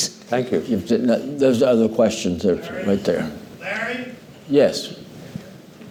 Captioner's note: calling out